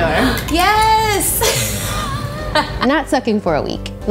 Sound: laughs

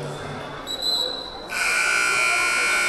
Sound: whistle blaring; buzzer buzzing

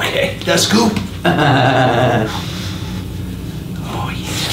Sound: laughs

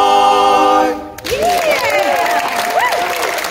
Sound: applause

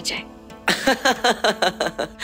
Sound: laughing

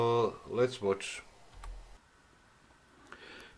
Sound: Professor Walter Lewin speaking

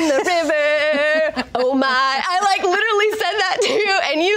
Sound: laughs

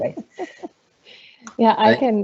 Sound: laughter

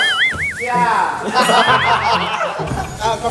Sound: laughs out loud

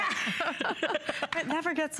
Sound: laughter

